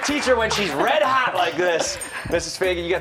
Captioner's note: cheers and applause